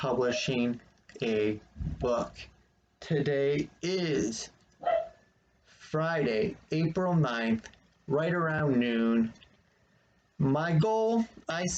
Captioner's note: dog barks in background